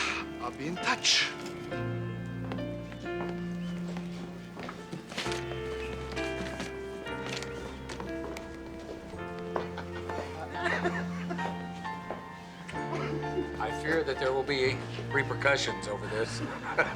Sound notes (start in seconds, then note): 9.6 laughter; 16.0 chuckles